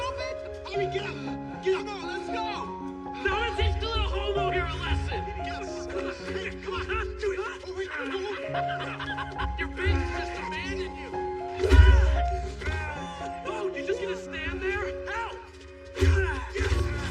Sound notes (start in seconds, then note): 8.6 laughs; 10.8 laughter; 11.6 both grunting